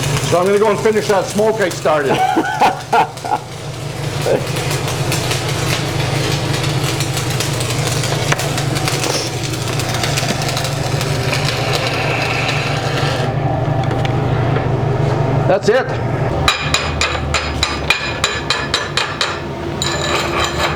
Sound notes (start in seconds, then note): 2.0 laughing